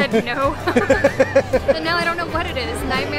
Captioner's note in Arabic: ضحك